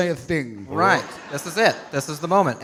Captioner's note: audience laughing